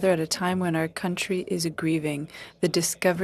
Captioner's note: speaking French